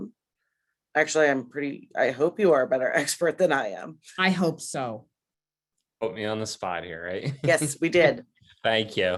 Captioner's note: laughs